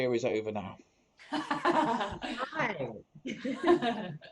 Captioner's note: laughter